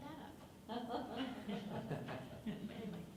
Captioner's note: laughing